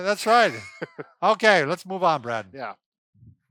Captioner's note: laughing